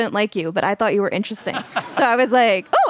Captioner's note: Jon laughs